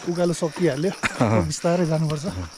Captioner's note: laughs